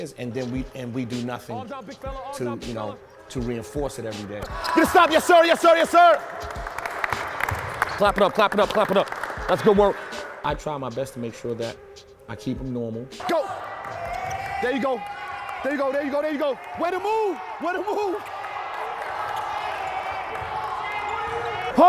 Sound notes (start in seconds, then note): 9.9 kids applauding; 13.4 overlapping chattering; 18.0 overlapping chattering